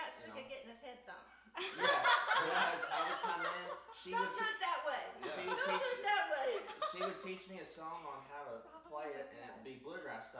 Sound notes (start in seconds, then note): 1.6 group laughs